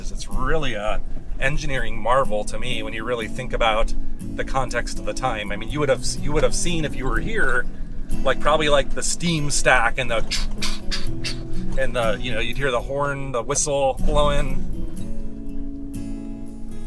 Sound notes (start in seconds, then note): 8.5 imitates steam train sound